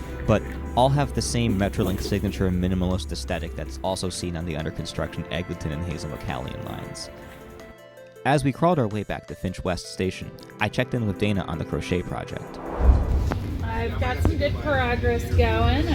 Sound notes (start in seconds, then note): 12.3 whoosh